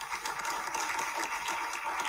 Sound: audience Applause

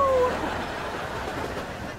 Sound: laughing

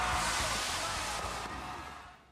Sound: cheering

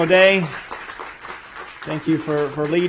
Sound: applause

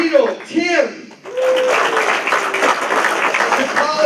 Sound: applause

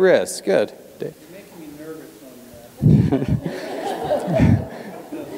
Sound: laugh

